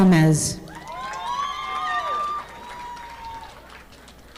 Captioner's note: audience applauding